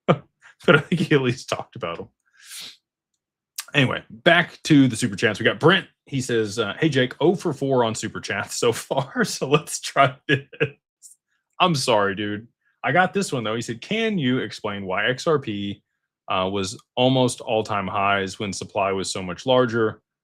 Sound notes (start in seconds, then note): 0.4 laughter; 3.0 snorts